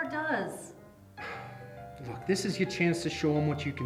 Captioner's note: sighs